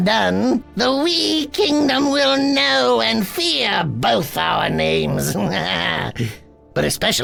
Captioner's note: laughs